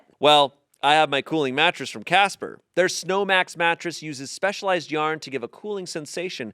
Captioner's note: none